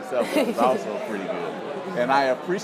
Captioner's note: laughter